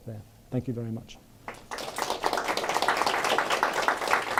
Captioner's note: applause